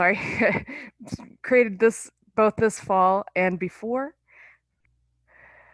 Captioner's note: laughing